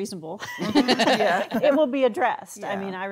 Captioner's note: laughing